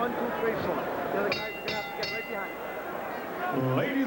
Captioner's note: bell ringing